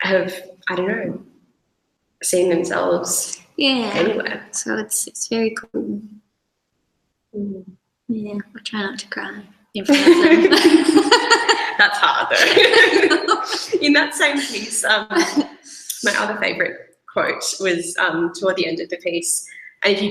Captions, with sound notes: have, I don't know, seen themselves anywhere. - So that's, it's very cool. But try not to cry, in front of them. (both laughs) - That's hard though. (laughter continues) In that same piece, my other favorite quote was toward the end of the face.